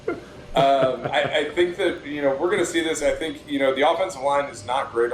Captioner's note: laughter